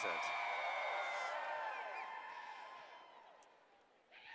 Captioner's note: cheers